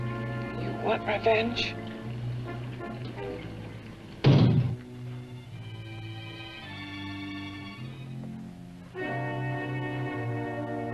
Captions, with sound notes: You want revenge? (knocks)